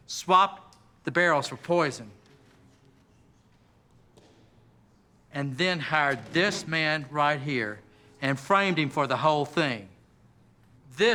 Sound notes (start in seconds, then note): none